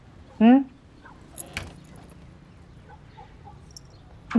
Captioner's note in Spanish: Puerta se abre